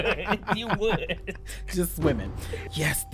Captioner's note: laughs